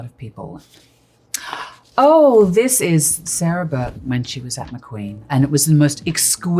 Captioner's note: gasps